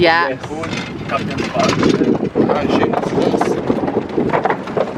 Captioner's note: wooden planks rattling